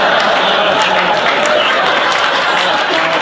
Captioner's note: applauding